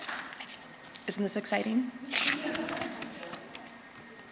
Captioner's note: audience chuckling